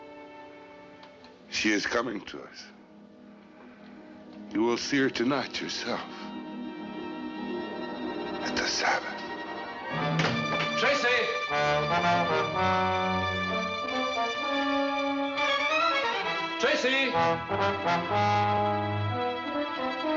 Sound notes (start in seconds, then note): 9.4 whispering